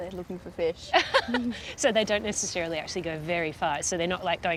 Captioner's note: laughs